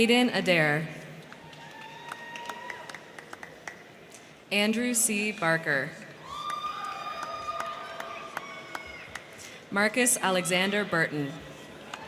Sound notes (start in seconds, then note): 1.2 crowd clapping; 1.3 crowd cheering; 6.0 crowd clapping; 6.1 crowd cheering